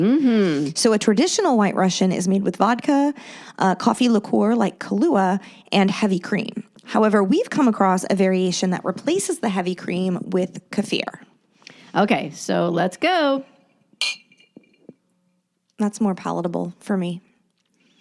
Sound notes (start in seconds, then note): 14.0 glasses clink